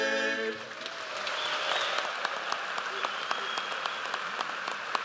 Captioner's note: audience applauds